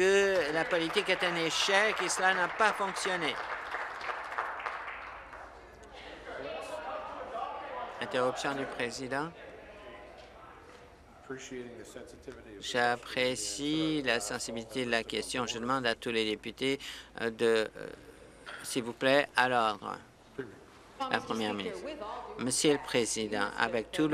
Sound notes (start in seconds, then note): 4.0 applause; 12.4 conversation din